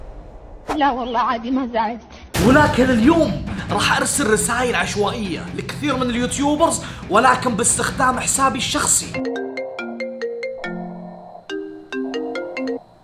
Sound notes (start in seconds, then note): 9.2 phone ringing